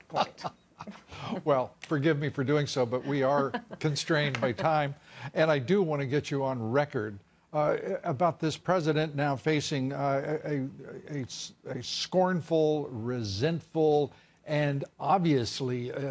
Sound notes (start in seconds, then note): 4.4 laughter